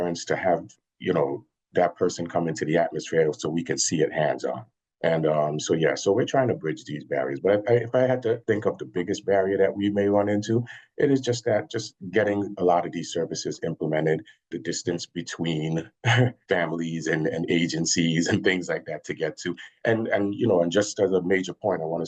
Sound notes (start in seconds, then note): 15.7 chuckles